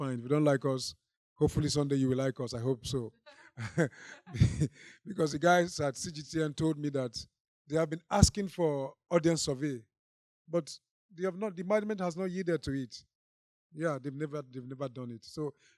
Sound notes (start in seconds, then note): 3.4 laughs; 3.6 audience laughing